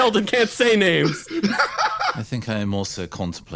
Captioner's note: laugh